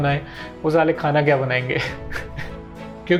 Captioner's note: chuckles